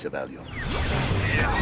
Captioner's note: ethereal woosh